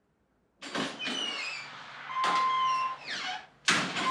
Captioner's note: door opens